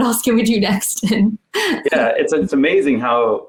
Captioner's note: giggling